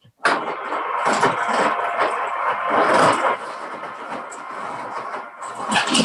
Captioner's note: blender humming; ice crushing